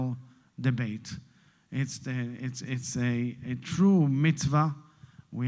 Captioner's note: Hebrew